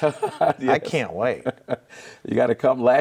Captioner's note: laughing